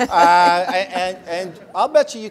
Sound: laugh

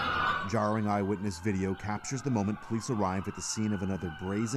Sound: sirens

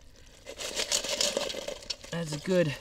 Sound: rattling

